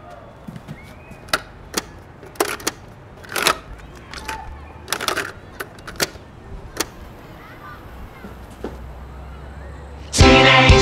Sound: distant chatter; electronic sounds

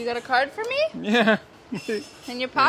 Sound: laughs

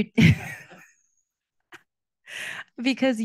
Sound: laughing

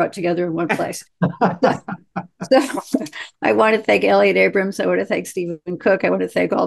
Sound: laughter

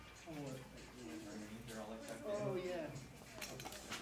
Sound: chattering

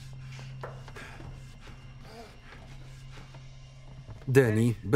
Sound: panting

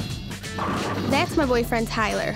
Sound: pins falling

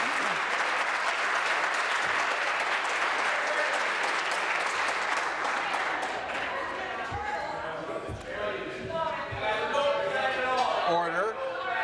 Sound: applause

